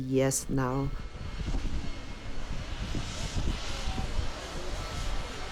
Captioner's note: train engine steaming